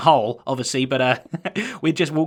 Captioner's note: chuckles